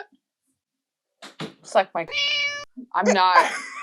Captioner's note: meow